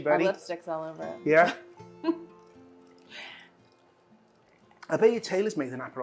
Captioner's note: laughs